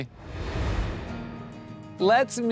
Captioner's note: air whooshes